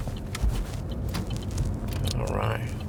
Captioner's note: car turn signal clicking